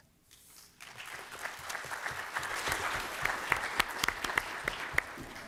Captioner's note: applause